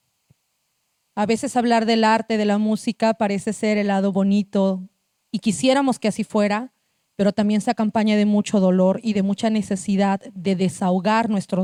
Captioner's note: speaking Zapotec language